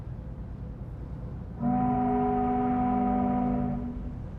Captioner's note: ship horn blaring